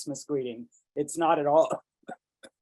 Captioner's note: coughs